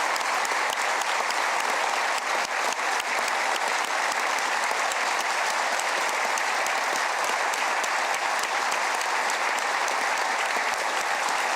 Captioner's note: applause